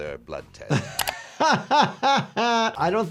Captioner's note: doctor laughs